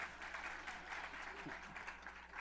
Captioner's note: laughter, applause